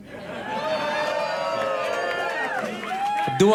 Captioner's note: audience cheers